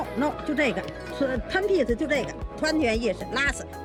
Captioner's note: speaking foreign language